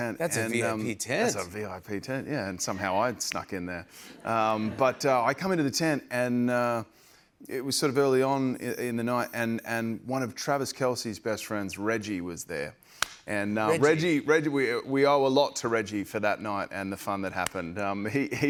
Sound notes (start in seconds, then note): 4.2 laughter